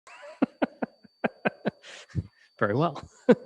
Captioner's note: laughs